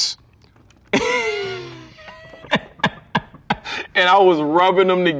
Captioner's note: laughs